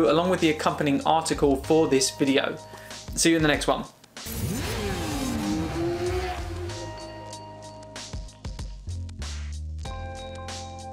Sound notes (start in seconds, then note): 4.2 motorcycle engine roaring; 4.5 soft music